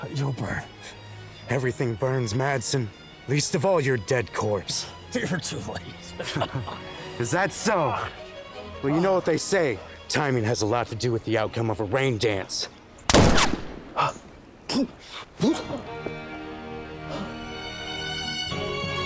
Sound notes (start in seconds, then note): 5.7 chuckling; 13.1 gunshot banging; 14.0 Bill gasps; 15.5 dramatic music